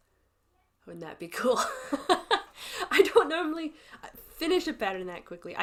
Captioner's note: laughs